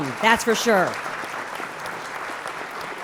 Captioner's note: applause